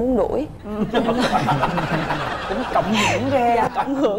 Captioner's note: laughing